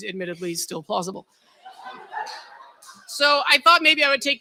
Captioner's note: laughter